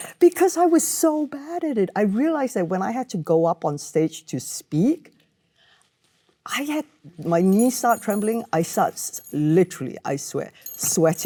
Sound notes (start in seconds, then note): none